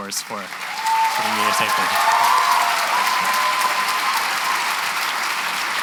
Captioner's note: cheering and applause